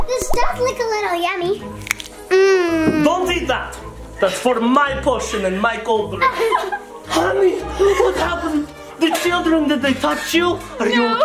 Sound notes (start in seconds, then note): 6.4 mother weeping